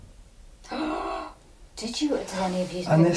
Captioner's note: gasping